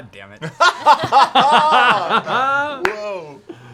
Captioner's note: laughs